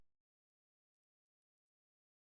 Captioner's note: long silence